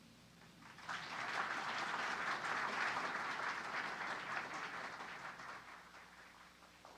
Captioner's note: applause